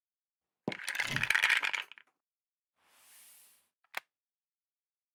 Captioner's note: characters clattering